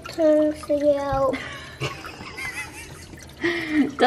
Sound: laughing

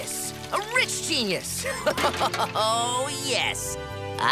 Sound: laughing

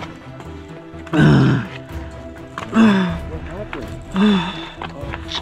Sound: groaning

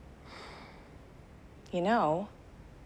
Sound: Kevin sighing

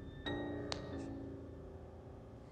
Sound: slaps

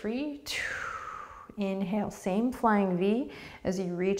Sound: deep breath

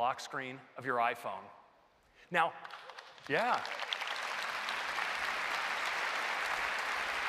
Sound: applause

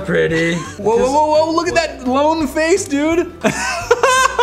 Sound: giggles

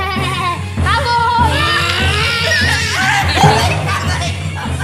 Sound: yells; laughs

